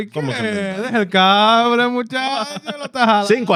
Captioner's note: speaking Foreign Language